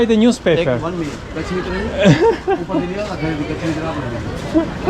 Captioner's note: indian man speaking local language